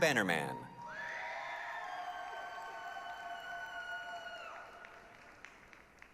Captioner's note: applause, cheering